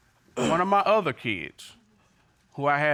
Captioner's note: clears throat